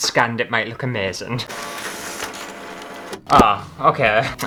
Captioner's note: scanning Sounds